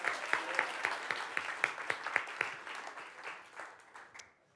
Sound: audience applauding

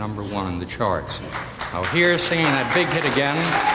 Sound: audience applause

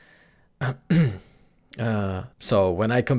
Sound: clearing his throat

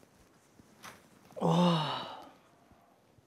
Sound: sighing

